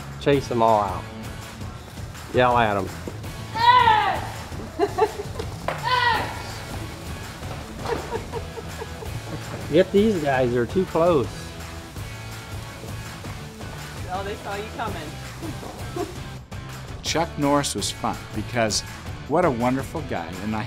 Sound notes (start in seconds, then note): 3.5 child screaming; 3.6 laughing; 14.2 voiceover